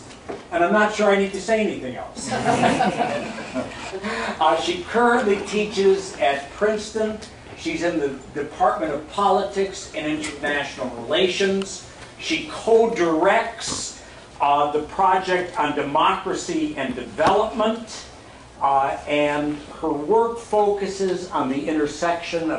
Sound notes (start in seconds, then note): 2.2 laughter